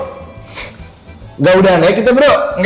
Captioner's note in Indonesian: sniff sniff